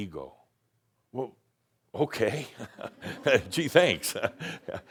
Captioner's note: Adamus chuckles